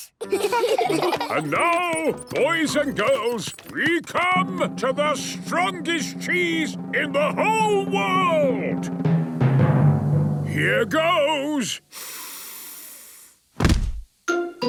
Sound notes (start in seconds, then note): 9.2 dramatic drumming music; 11.9 sniffs